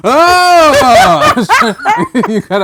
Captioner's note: laughter